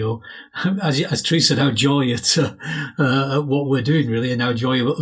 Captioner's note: chuckles